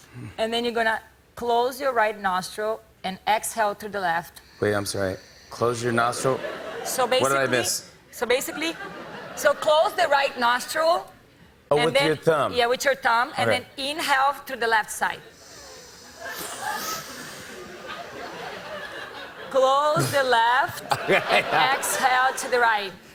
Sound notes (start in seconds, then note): 15.3 breathing deeply; 16.5 laughter